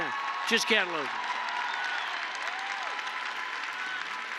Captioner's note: applause